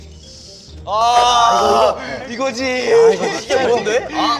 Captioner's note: cry of agony